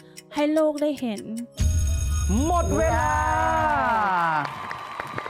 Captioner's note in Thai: เสียงกริ่งนาฬิกา